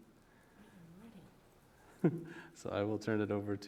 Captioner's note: chuckles